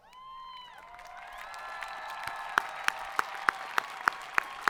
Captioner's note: students cheering